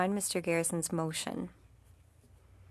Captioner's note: speaking French